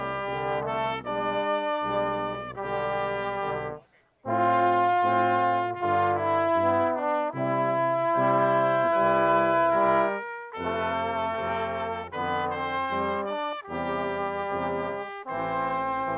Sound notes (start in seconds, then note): none